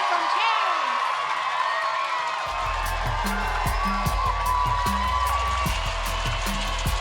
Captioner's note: cheering, applause